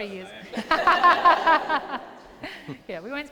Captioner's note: laughter